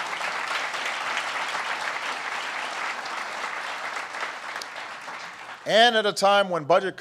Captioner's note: applause